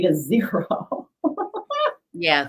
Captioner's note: interviewee laughing